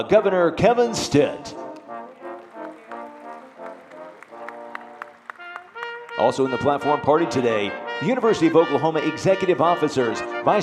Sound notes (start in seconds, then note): 1.6 audience applauding